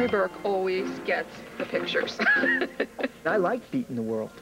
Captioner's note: telephone rings